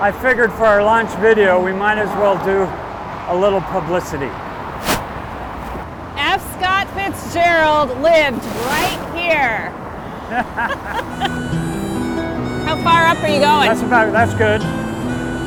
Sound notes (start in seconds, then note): 10.2 laughter